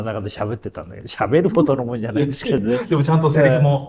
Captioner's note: laughs